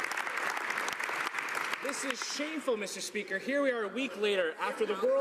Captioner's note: some Applause